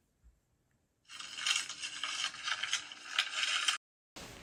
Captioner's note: paper rustles